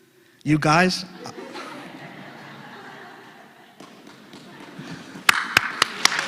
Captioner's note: laugh; applause